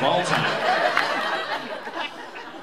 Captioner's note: laughter